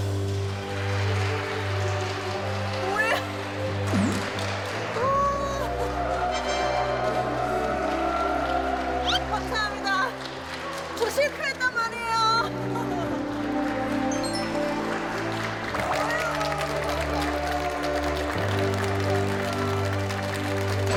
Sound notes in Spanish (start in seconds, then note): 0.8 Aplausosx30